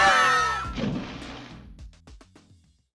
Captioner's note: splash!